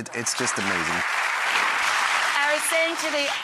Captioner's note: applause